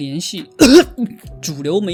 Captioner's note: 咳嗽